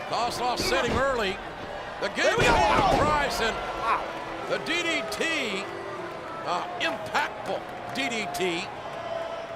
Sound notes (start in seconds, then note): 7.0 crowd booing